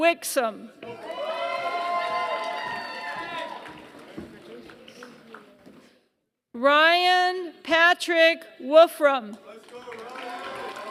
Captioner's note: applause